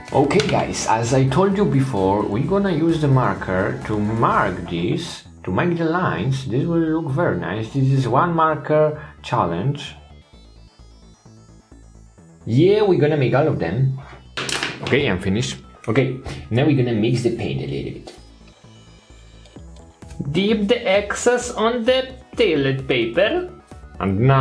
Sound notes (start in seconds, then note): 14.4 pen clatters